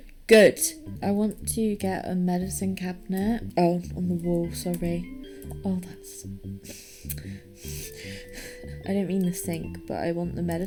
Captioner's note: tuts